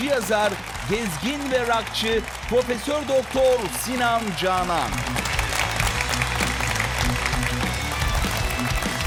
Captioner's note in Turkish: alkış